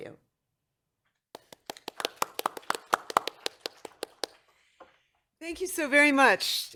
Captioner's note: applause